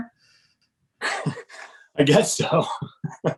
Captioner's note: laughs